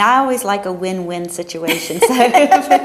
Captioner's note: laughter